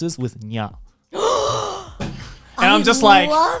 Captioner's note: gasping